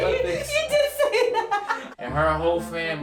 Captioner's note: laughing